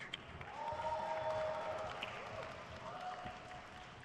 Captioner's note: crowd cheers